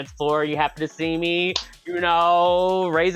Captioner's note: house music; claps